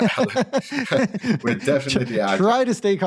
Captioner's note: laughter